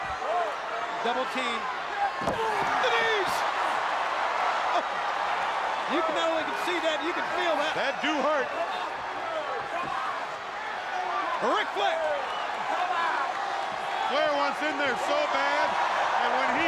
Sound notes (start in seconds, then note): 5.8 crowd chatter